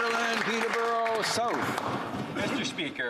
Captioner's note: applause